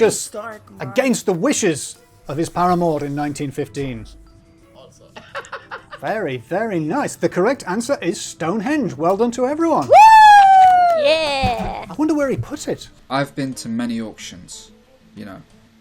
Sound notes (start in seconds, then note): 5.2 laughs; 9.8 cheering